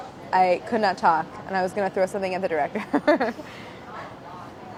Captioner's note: laughs